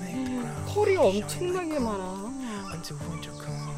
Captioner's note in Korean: 놀람